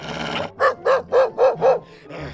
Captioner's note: barking